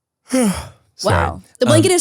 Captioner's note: yawning